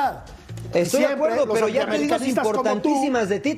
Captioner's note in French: todos hablando